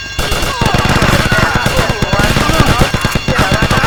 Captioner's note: gun firing